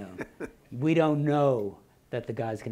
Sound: laughing

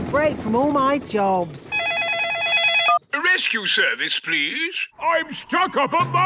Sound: phone ringing

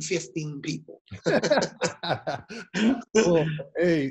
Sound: laughs

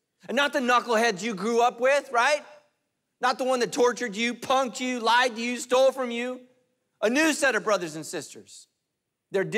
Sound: none

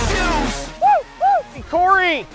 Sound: hooting

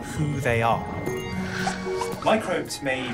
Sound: popping

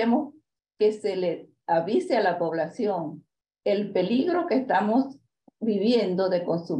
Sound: continues speaking in Spanish

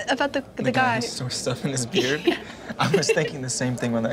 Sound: laughs

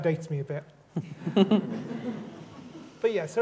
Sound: laughter

